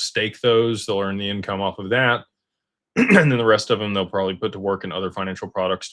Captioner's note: clears throat